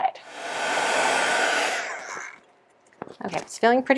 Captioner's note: heat tool blowing